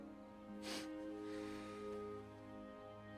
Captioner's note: sniffs